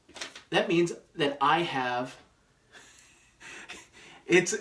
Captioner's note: laughs